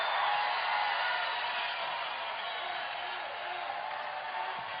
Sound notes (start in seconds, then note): 0.0 cheers and applause